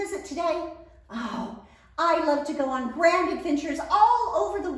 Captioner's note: sighs